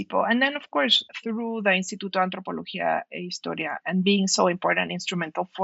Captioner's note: non-english speech